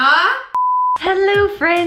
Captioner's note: beeping